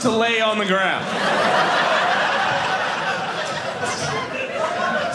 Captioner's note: audience laughing